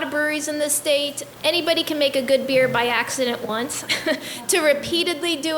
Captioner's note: laughs